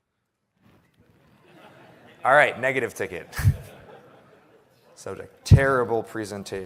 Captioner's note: laughter